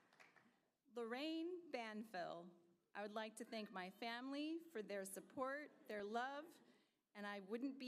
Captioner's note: applause